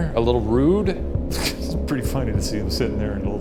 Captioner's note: laughs